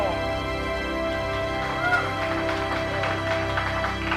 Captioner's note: applause